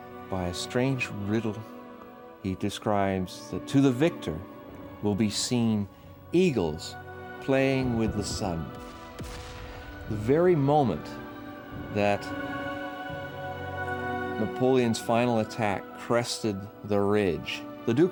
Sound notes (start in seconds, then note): 7.8 guns banging; 9.0 dramatic music